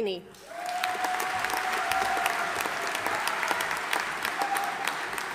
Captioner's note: audience applauding